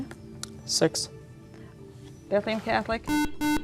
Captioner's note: beeping